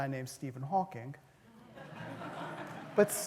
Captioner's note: laughter